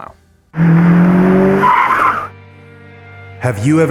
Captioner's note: tire screeches; car revs